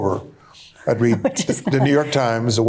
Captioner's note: chuckling